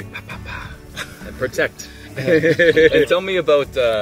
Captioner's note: laughs